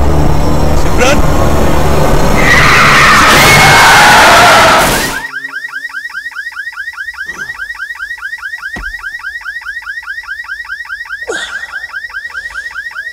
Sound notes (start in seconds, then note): 2.1 car screeching; 4.8 car beeping; 8.3 car beeping